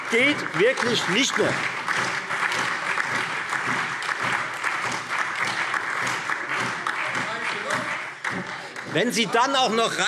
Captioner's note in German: Beifall Freie Demokraten, SPD und DIE LINKE